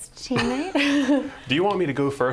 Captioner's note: laughter